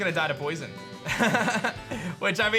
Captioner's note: laughs